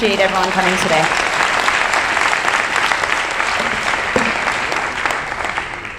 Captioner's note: audience applauding